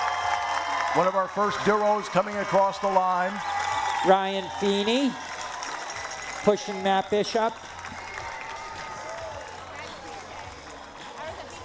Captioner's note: cheering